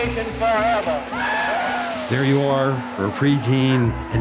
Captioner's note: audience cheering